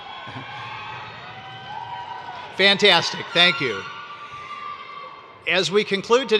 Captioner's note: cheers